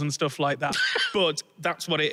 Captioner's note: wheezes